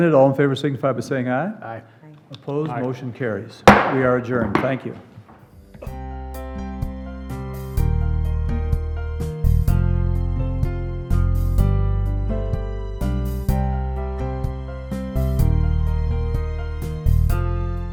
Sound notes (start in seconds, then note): 3.6 gavel bangs; 5.5 gentle music